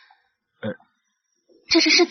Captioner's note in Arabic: تجشأ